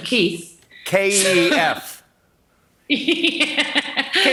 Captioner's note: laughing